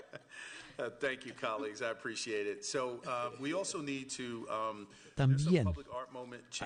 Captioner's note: laughter